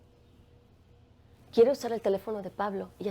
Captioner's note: speaking spanish